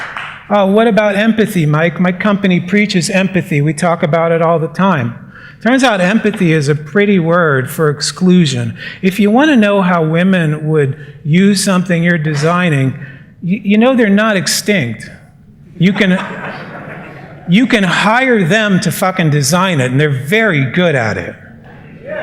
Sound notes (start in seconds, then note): 0.0 applause; 15.9 laughter